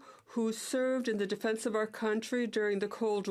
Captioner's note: speaking in French